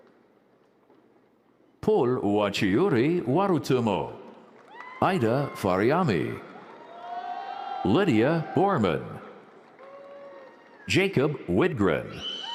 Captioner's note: applause